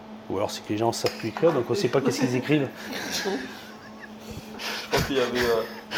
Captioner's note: laughs